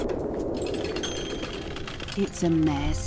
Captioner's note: wheelchair rolling